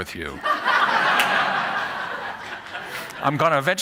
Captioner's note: laughter